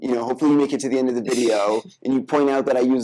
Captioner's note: laughing